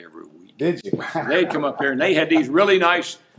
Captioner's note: laughing